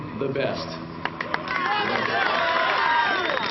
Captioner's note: cheers and applause